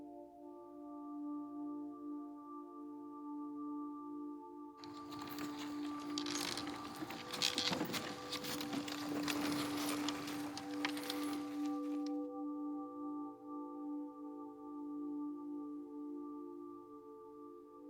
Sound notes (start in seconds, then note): 6.9 wagon wheels creaking; 14.2 mournful music continues